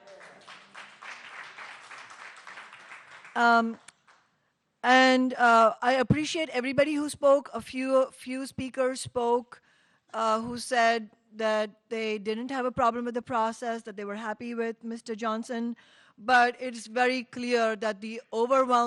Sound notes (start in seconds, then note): 4.5 applause